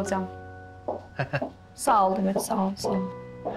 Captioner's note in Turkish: Kerem gülüyor